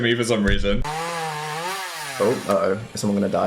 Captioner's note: chainsaw buzzing